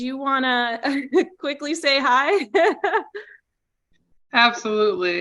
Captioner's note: chuckling